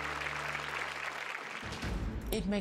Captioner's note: applause